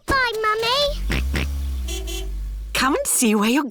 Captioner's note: car horn honks; george oinks